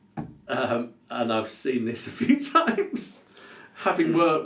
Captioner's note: laughs